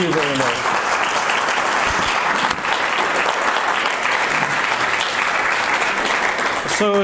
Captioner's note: audience applause